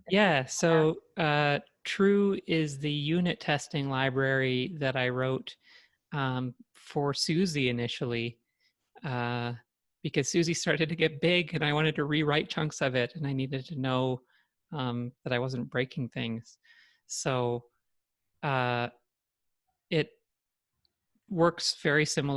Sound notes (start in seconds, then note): none